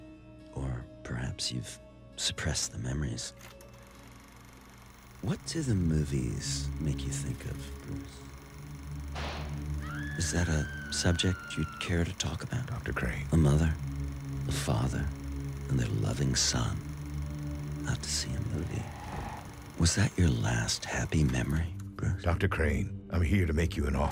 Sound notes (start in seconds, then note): 3.5 projector clicking; 8.3 gunshot; 9.8 woman screams